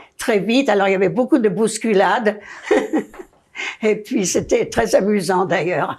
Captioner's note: laughing